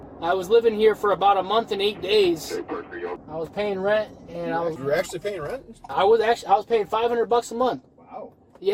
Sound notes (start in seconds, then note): 1.7 radio chatter